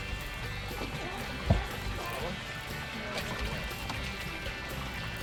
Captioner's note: seal barking